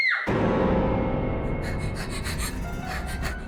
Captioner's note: Reenactment Bryn screams; panting